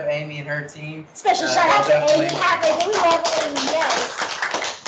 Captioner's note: clapping